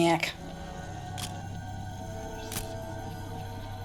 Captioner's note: camera shutter click